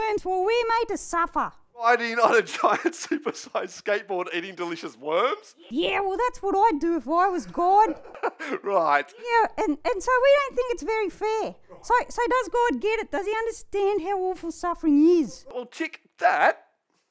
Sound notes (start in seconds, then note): 9.5 laughing